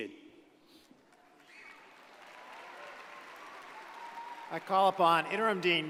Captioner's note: audience applauds